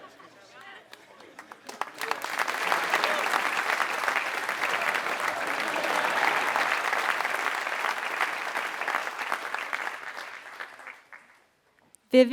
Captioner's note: laugh; applause